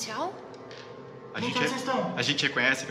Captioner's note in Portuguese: Voz abafada